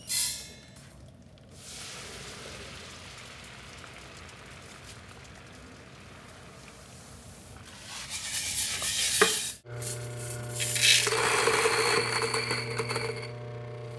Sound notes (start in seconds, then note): 0.2 metal plinks; 1.4 liquid hisses; 9.6 grinder whirs